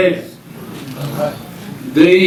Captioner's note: audience murmuring